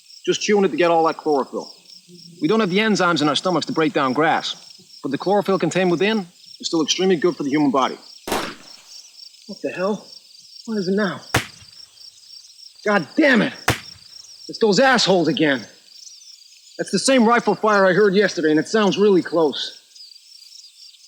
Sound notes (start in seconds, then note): 8.2 distant gunshot crack; 11.3 distant gunshot crack; 13.6 cracking gunfire continues